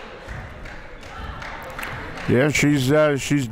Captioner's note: clapping